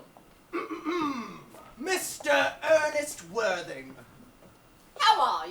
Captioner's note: clears throat